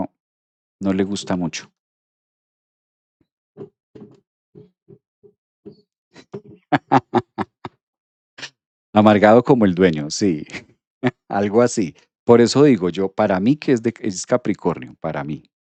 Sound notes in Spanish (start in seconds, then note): 7.9 risas